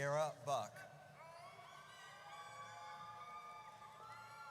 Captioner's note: audience cheers